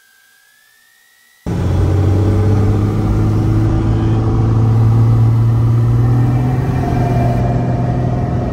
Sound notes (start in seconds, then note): 1.4 engine roaring